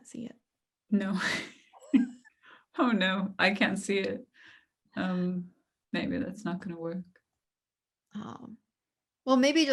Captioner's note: laughter